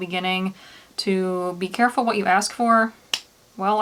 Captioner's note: clap